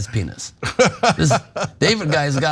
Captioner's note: laugh